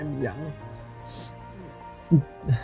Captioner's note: sniffles